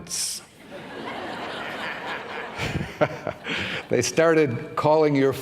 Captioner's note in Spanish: risas